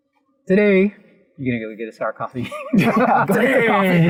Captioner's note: laughter